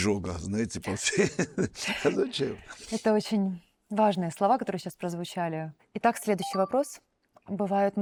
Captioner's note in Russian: смех